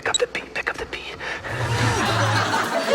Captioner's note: laughter